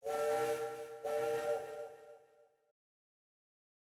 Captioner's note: shen whistles